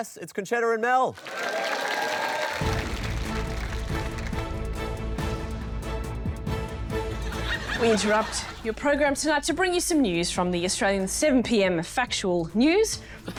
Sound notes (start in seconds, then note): 1.1 cheering, applause